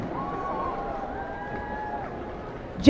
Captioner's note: applause